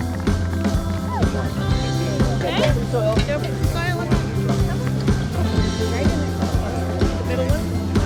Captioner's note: people conversing